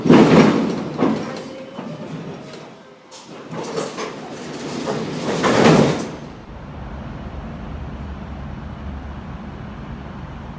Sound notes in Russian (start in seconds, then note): 3.1 открытие дверей